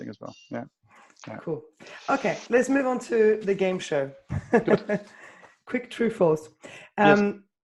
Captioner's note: laughs